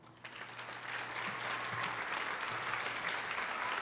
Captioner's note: applause